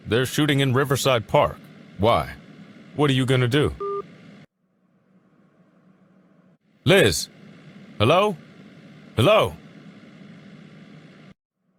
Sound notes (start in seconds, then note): 3.8 phone hangup beep